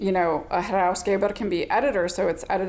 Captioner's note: speaking in foreign language